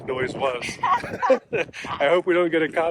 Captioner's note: both laughing